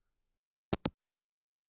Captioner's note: hangup